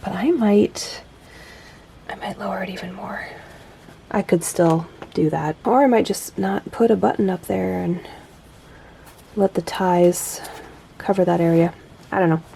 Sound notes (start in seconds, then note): 1.9 whispers